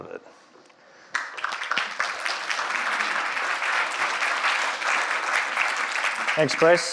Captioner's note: applause